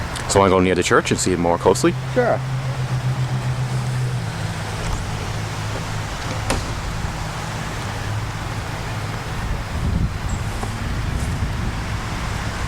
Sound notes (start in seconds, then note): 3.4 car Noises; 9.6 wind